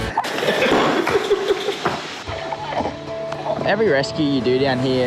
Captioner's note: laughing